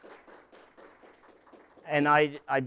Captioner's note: applause